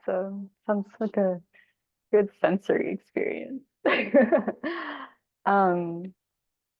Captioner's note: chuckles